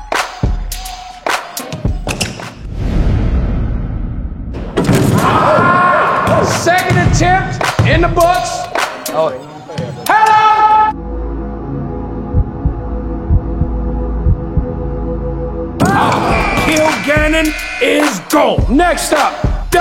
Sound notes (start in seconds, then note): 4.6 dunk sound; 14.4 dunk sound; 16.2 buzzer